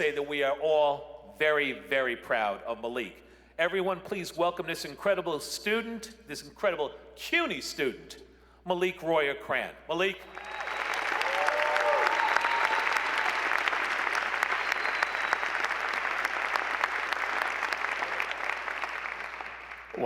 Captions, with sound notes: I dare say that we are all very, very proud of Maliq. Everyone, please welcome this incredible student, this incredible CUNY student, Maliq Royer-Crann. Maliq. [ Cheers and applause ]